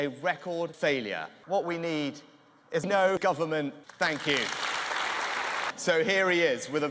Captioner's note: applause